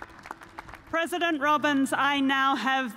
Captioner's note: cheers and applause